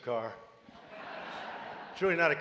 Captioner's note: laughter